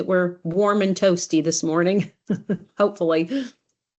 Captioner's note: chuckles